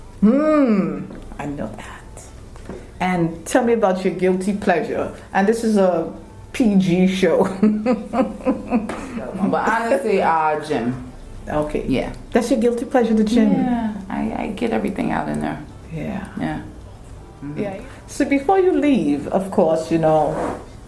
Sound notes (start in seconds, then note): 7.5 laughing